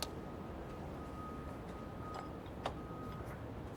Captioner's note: construction trucks beeping